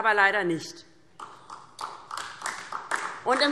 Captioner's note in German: Beifall DIE LINKE und vereinzelt SPD